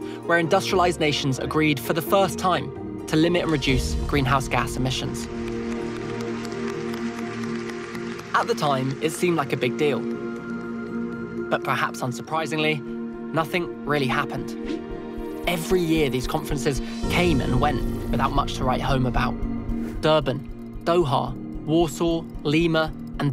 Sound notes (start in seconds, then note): 4.2 participants applauding